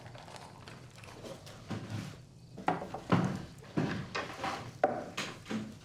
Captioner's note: none